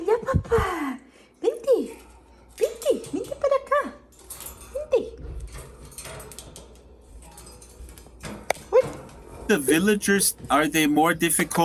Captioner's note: bird noises while she talks to bird